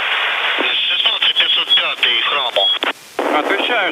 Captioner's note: foreign language transmission